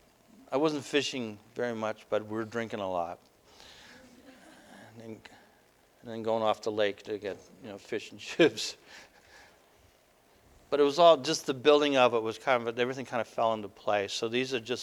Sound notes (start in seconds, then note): 9.5 laughter